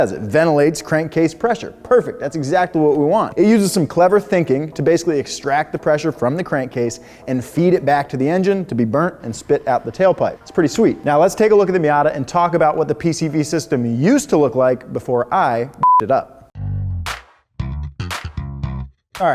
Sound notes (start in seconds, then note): 15.8 beep; 17.6 upbeat music